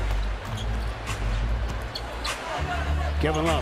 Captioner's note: loud crowd noise